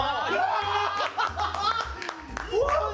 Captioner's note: cheers